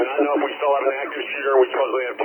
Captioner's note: sirens blaring